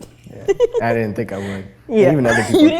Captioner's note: laughs